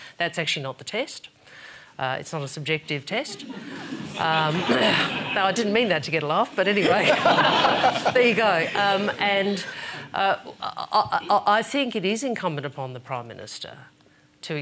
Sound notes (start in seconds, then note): 3.1 laughter; 3.8 clears throat; 6.6 laughter